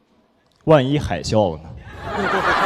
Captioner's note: laughs